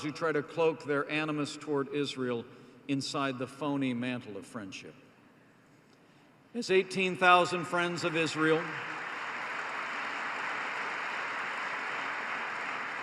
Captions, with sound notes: who try to cloak their animus towards Israel inside the phony mantle of friendship. As 18,000 friends of Israel -- (applause) --